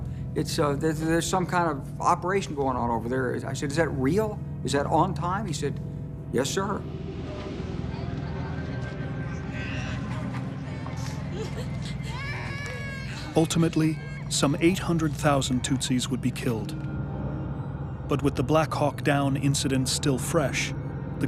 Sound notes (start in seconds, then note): 10.6 child wailing